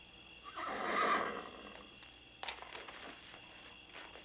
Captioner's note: horse whinnying